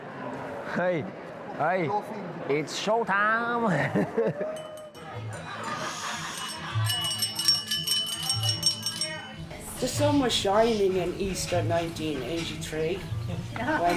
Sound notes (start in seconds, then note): 4.4 guests chattering; 6.9 glass clinking